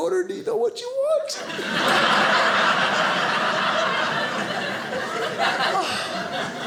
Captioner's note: audience laughing